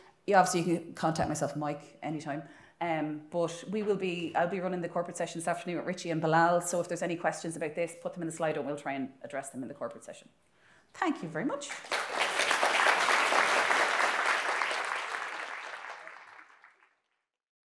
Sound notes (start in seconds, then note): 11.8 audience applauding